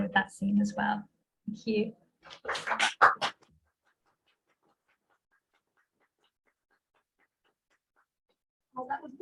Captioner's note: applause